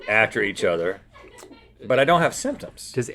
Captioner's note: laughs